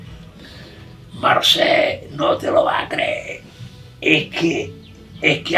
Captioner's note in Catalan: Amb accent murcià, imitant al senyor Juan